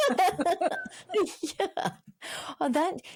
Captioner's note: laughs